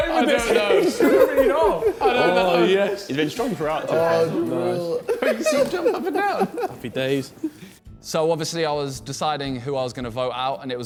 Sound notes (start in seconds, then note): 5.1 men laughing